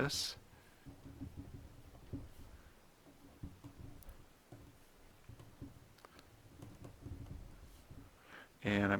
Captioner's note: writing on Paper